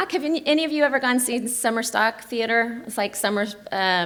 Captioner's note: none